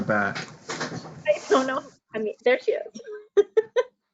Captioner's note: laughs